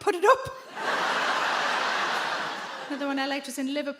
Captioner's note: audience laugh